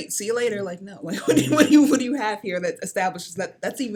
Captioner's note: laughs